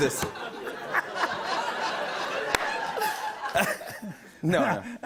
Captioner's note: laughter